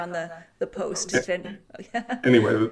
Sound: chuckles

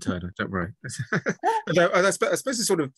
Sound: both laugh

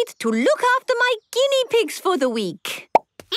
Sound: squeaking

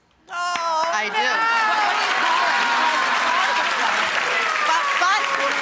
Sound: audience applause

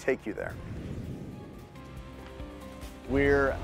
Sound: calming music; air whooshing

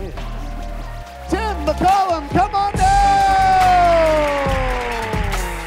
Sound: cheering; applause

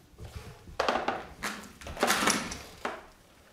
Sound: clacking

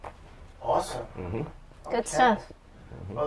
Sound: sounds of agreement

